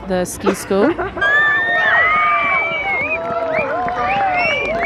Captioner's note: crowd cheers